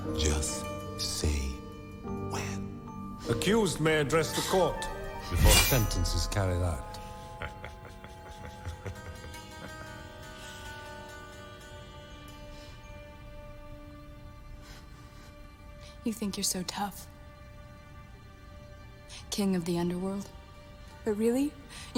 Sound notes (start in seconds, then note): 7.1 Harry laughing